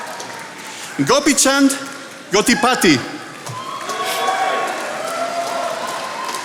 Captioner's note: attendees applauding